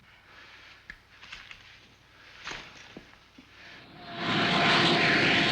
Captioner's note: machine whirring